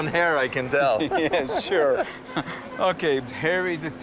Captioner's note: laughing